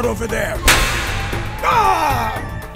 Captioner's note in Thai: ผัวะ